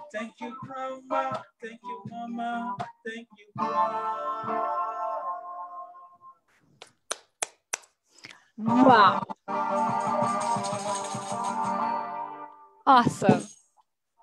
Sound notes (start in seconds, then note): 6.8 clapping; 10.1 guitar riff